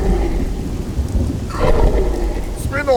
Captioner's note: deep bellow sound